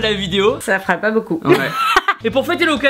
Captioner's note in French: Rires